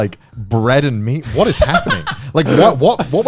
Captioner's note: laughing